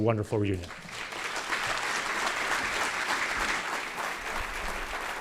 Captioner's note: audience applause